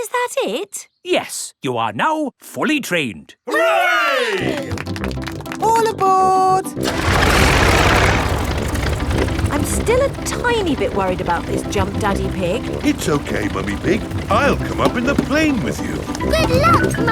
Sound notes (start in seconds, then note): 7.4 plane engine starts